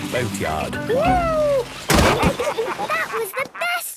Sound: bangs

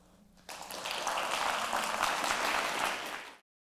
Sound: applause

